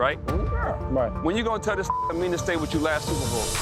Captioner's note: beep